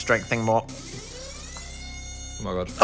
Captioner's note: alarm blaring